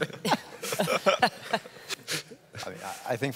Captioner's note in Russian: смех